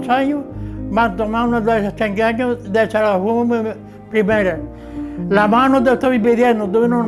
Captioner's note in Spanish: recita poesía